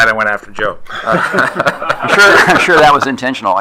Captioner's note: attendees laughing